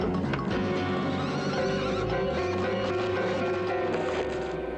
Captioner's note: terrified whinny